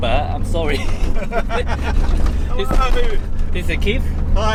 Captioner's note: laughter